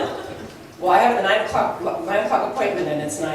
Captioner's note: laughs